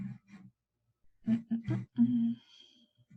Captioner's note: humming